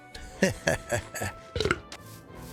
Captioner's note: laughs; burp